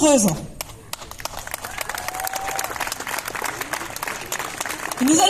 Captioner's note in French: applaudissements